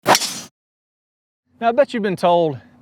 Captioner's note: ball wooshing